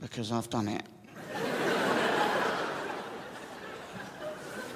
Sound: crowd laughs

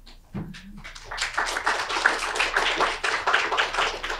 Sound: audience applauds

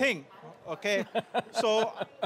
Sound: laughing

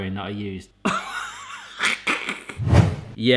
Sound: laughing

